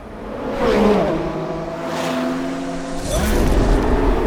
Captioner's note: engines roaring